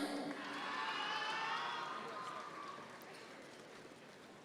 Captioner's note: audience members cheer